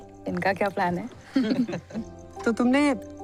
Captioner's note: giggling